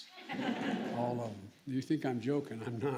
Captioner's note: laughter